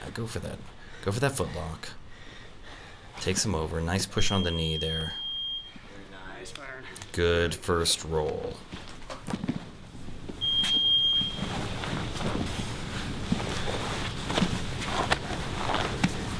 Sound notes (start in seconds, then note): 4.1 beep; 6.1 voiceover; 10.4 beep